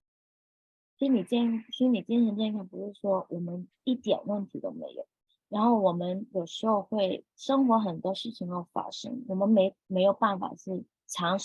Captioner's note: speaking chinese